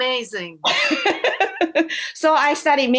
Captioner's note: laughter